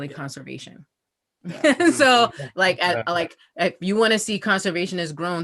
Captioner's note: laugh